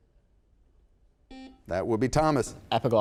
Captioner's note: buzzer sounds